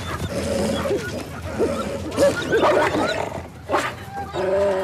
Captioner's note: dogs whining and growling